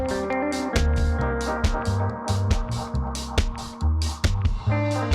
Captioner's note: none